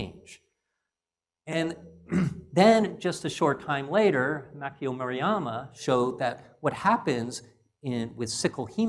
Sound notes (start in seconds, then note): 2.0 cough